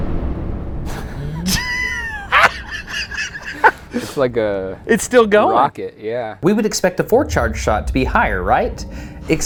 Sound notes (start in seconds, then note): 1.1 laughs